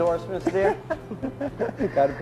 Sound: laughing

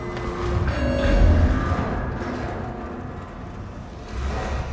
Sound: loud klanking of heavy shutters

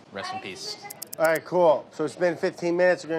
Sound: clock ticking

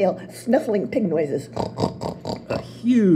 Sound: snort, snort, snort

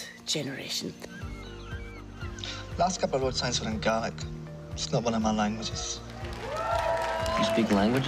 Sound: seagulls squawking

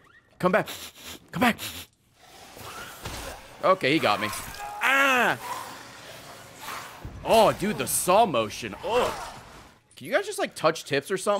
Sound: sniffs

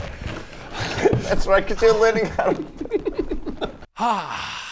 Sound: giggles

